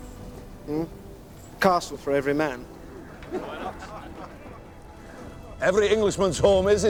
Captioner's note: men chuckling